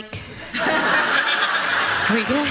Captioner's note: laughter